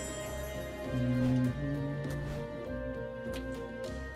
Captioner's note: humming along